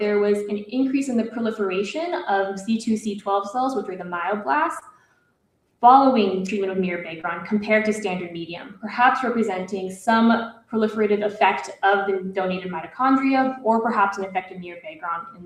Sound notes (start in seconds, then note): none